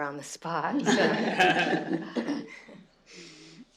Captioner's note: laughter